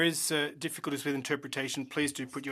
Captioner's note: speaking French